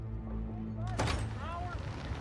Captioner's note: door thuds